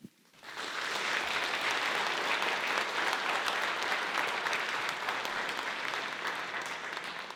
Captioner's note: applause